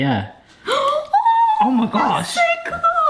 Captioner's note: exclaims